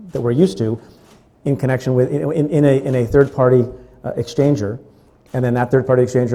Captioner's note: stutters